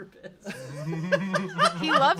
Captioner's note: laugh